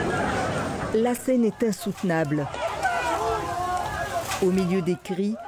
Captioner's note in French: cacophonie de cris